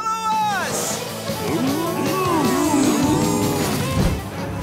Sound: mooing

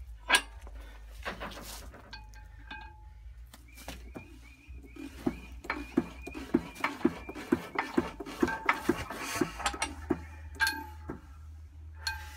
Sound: clunka clunka clunka clunka ting whoosh woosh

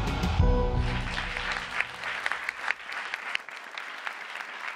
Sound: audience applauds

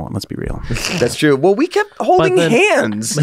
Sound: laughs

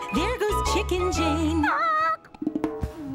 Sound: squawks

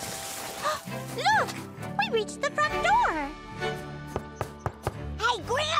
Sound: gasps; knocking

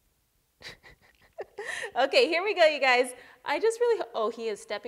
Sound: laughs

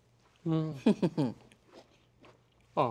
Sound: chuckles

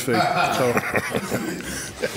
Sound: audience laughs; laughs

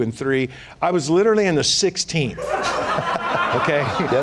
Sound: laughter

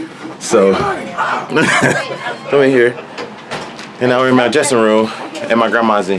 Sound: laughs

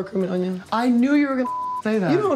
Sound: beep

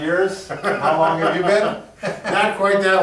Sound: laughs

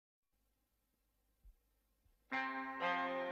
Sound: silence; trumpet music plays

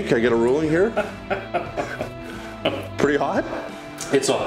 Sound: laughing

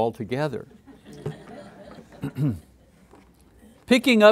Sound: students laughing in the background

